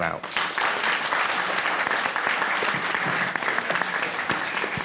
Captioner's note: audience applauding